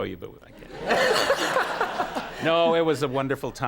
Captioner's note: Conan and the audience laugh